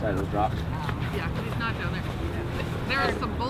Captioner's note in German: undeutliches Geschwätz